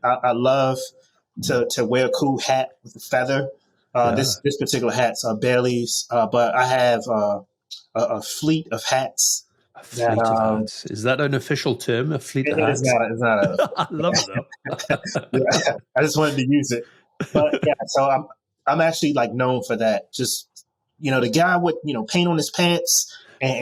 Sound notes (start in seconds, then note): 14.3 chuckling; 14.8 chuckles